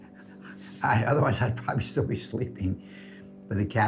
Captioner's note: chuckles